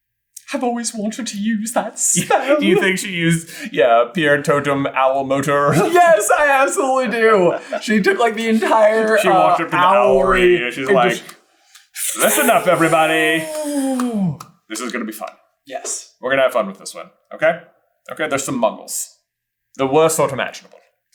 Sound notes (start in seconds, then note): 6.0 cracking up